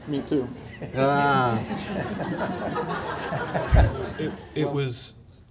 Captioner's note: laughter